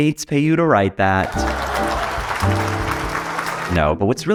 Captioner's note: audience applauding